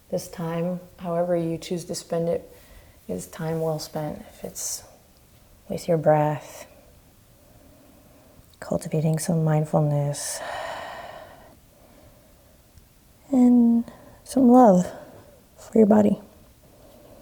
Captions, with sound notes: This time, however you choose to spend it, is time well spent if it's with your breath, cultivating some mindfulness. (exhaling) And some love for your body.